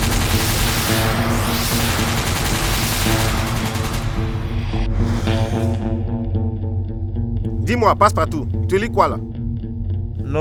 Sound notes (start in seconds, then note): 0.0 helicopter firing